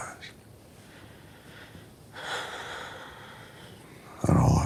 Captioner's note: Angela sighing